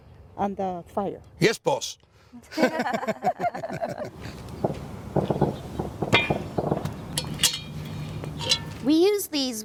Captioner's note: laughing; pots clanging